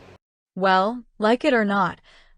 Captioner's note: none